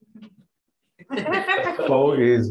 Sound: laughter

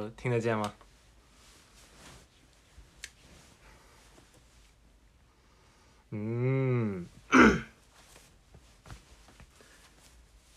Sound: ahEm

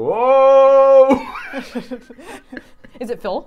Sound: both laughing

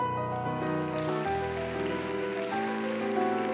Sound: applause

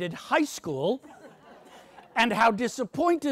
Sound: audience laughs

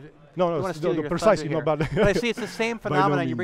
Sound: laughs

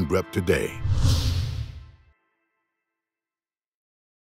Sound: whoosh

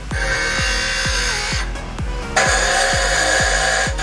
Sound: grinding

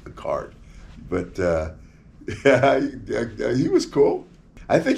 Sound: laughs

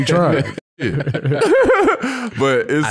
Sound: laughs

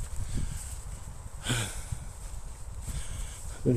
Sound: sighs

